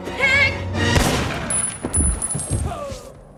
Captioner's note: gun fires; man groans